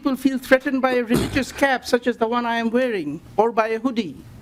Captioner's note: lauging